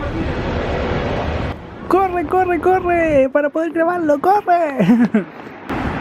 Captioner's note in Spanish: risas